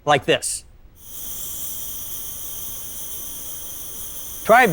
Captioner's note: slinky rattling